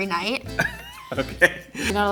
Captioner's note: laughing